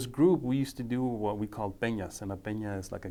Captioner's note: speaking foreign language